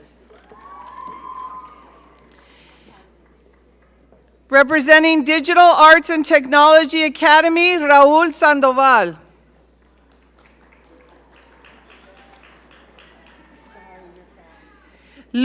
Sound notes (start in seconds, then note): 0.2 audience cheering; 9.6 audience applaud